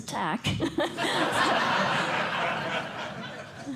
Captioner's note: laughter